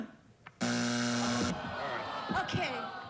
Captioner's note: buzzer